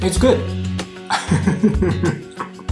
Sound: chuckles

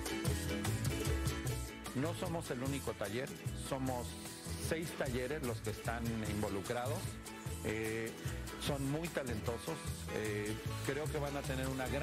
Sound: speaking spanish

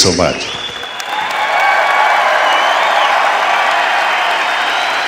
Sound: cheering

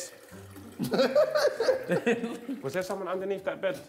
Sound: JJ laughs

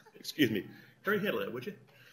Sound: laughter

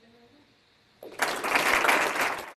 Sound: applause

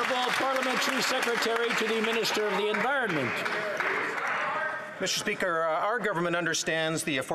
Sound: some Applause

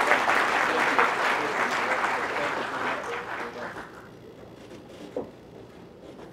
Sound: applause

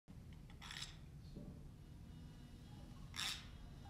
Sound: cranking gears

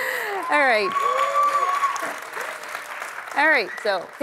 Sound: applause

